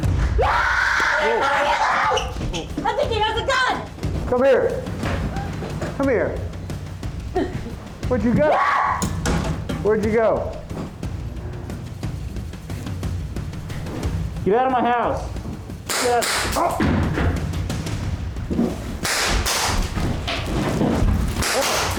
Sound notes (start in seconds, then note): 0.4 woman screams; 8.5 woman screams; 16.1 fires gun; 19.0 both fire guns